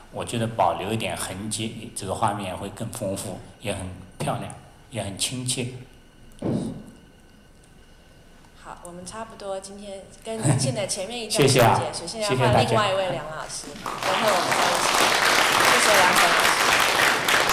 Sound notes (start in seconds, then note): 9.1 Mandarin; 11.5 Mandarin; 13.8 audience clapping; 15.9 Mandarin